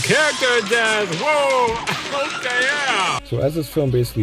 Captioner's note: screaming and intense music again